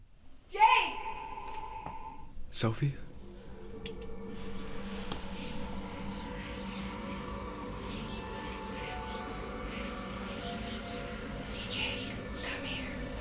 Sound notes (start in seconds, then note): 4.9 creepy whispering